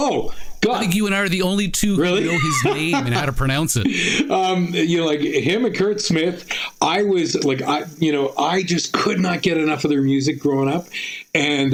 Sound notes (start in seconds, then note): 2.0 laughing